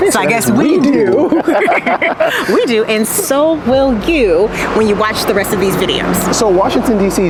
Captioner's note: laughing